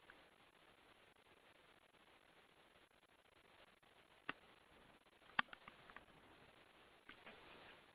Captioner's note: silence